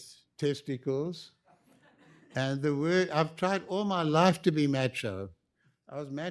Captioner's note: laughter